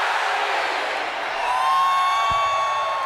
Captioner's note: crowd chatter; crowd cheering